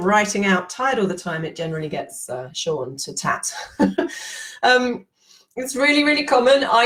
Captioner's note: she laughs